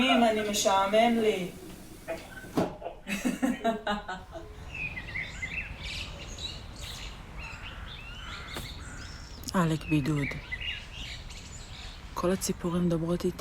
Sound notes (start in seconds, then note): 4.9 birds chirping